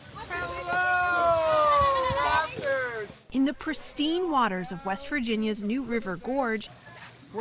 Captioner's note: voice-over